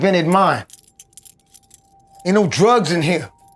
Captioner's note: handcuffs clinking